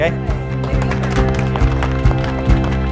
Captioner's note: applause